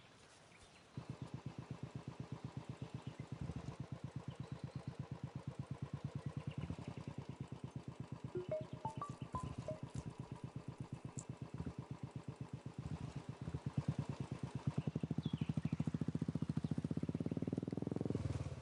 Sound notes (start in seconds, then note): 3.1 motor bike starting; 8.3 mobile phone ringing